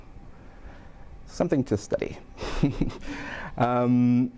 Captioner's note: chuckles